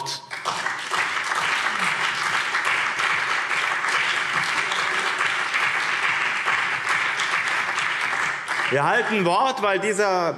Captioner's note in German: Beifall BÜNDNIS 90/DIE GRÜNEN und CDU